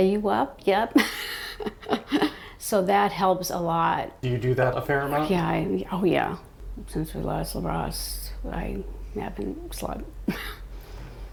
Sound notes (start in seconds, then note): 0.9 laughter